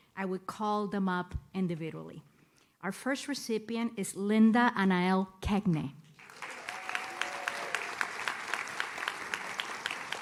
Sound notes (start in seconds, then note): 6.2 audience claps